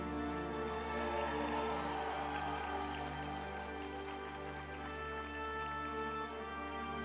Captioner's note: uplifting music; group applauding